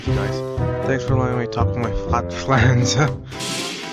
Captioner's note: chuckles